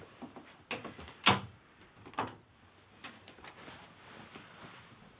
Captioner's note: door thuds